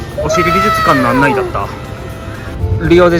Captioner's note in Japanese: 叫び声